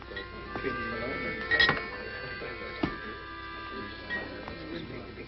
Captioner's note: patrons murmuring